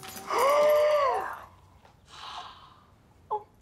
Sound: gasps

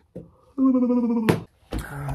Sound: yawn

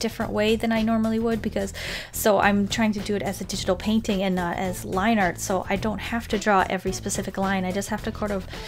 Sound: none

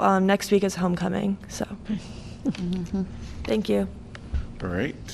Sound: laughter

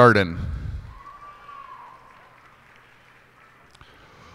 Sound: cheers and applause

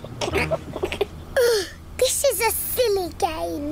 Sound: laughs; groans

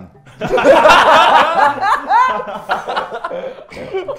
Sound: laughs

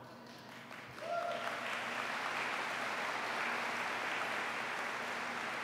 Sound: applause

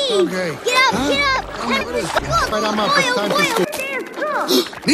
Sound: more sounds of bickering

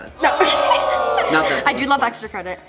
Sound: crowd groaning; laughs

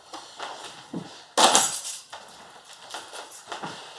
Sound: keys jangling

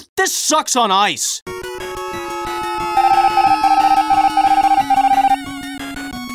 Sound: screams distantly as he gets ejected into space

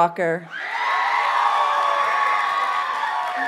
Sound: audience cheers and applauds

